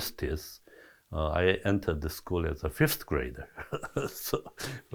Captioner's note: chuckles